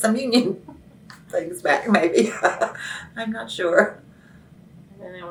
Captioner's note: laughs